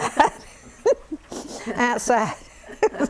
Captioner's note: laughter